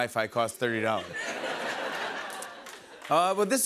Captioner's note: laughter